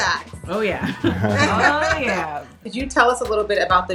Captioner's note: all laughing